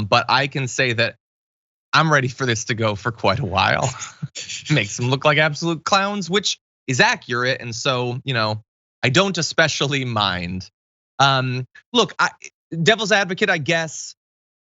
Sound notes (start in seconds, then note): 3.2 laugh